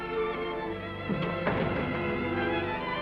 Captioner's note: door thudding shut